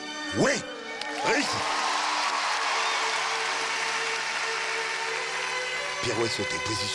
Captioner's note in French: applaudissements